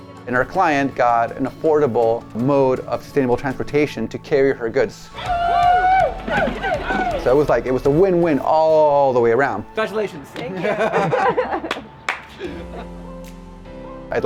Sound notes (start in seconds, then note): 5.1 people cheering; 10.4 laughs; 13.0 orchestral music